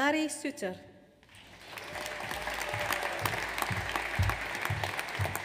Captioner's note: audience applauds